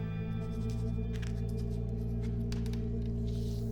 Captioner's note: pen scratching